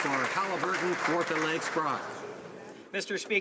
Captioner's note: some Applause